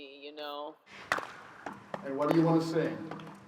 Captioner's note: audience claps a rhythm